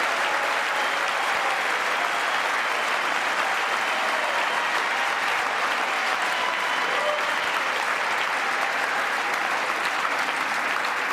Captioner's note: applause